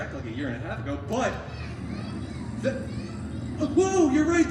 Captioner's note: young guest shouting